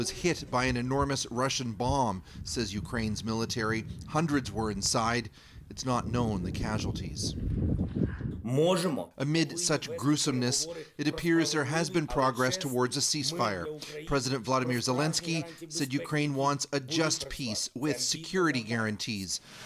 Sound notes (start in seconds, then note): 12.2 speaking Foreign Language